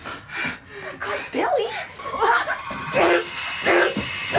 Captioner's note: screams; Billy groaning; eerie music